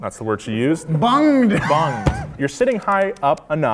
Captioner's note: laughing